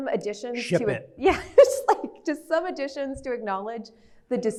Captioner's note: laughs